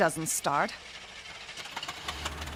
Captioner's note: motor sputtering